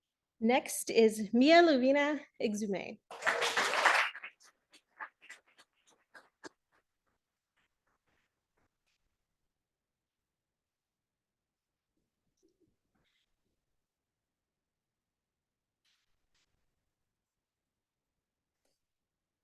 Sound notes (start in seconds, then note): 3.1 audience applauding